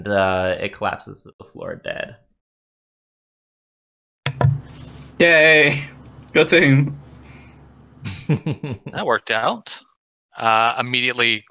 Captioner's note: laughter